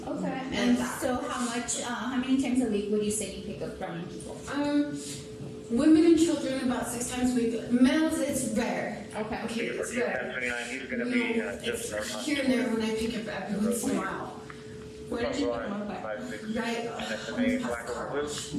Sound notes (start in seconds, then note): 9.3 radio chatter